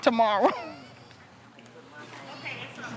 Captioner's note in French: gloussements